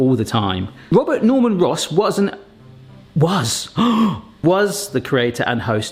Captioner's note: gasps